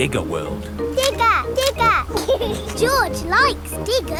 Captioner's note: laughs; snorts